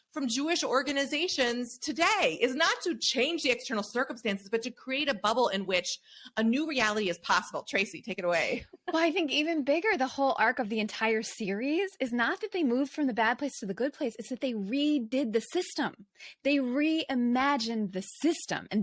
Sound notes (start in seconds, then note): 8.5 laughs